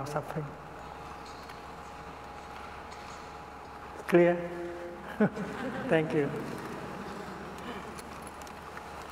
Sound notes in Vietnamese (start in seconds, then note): 5.0 tiếng cười